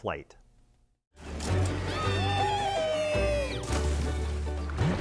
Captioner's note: elated shouting; bright music